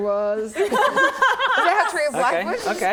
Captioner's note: laughing